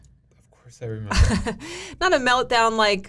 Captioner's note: laughing